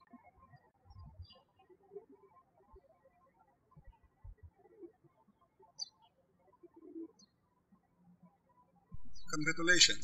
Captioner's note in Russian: птички щебечут